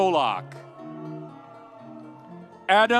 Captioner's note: audience cheering